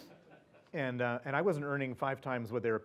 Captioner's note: laugh